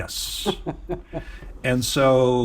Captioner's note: laughs